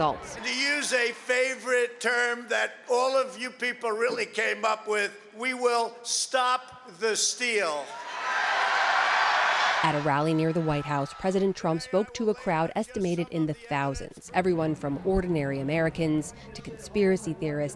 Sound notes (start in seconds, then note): 7.8 cheering and applause